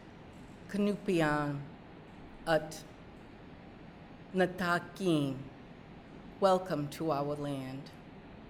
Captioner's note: speaking narragansett